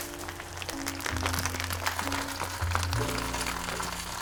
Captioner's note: sizzling sound